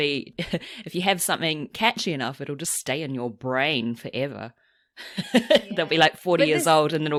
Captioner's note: laughs